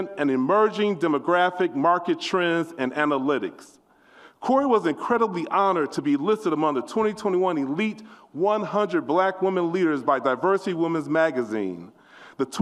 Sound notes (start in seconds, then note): none